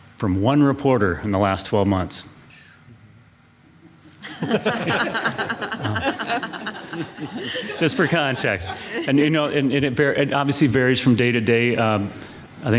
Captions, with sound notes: from one reporter in the last 12 months. (board laughing) Just for context. And you know, and it obviously varies from day to day.